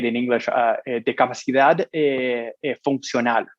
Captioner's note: speaking in Foreign Language